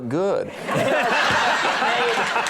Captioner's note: all laughing